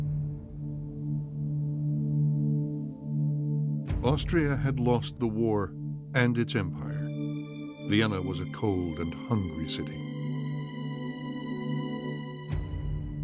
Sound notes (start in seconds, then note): none